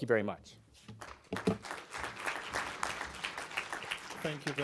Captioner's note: applause